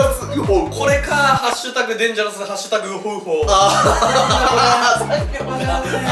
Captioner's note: laughs